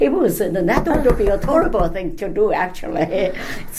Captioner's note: tapping sound; laughs